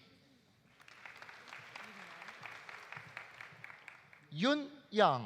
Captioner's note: audience applauding